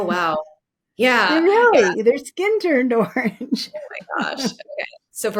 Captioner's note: laughs